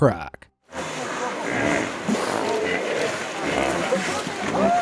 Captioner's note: hippos grunting